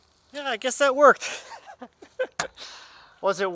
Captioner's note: laughs